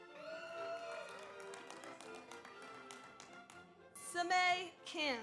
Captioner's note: audience applauds; audience cheers